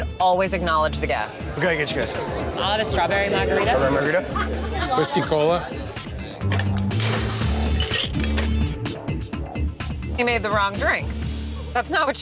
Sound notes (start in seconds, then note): 7.1 ice clinks; 8.6 intense music